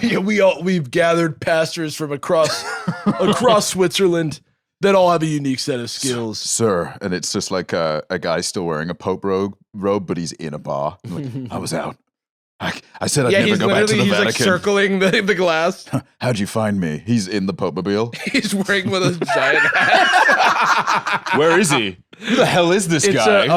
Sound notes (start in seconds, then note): 18.1 laughing